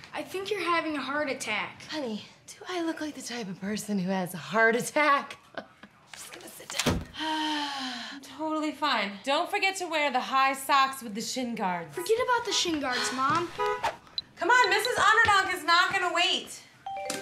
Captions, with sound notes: I think you're having a heart attack. - Honey, do I look like the type of person who has a heart attack? (laughing) I'm just gonna sit down. (breathes loudly) Totally fine. Don't forget to wear the high socks with the shin guards. - Forget about the shin guards, Mom. (car horn blowing) - Come on, Mrs. Underdog is not gonna wait!